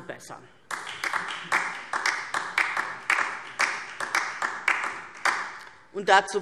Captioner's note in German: Beifall DIE LINKE